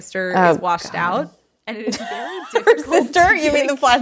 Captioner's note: laughing